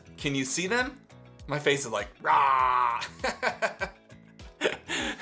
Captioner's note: laughs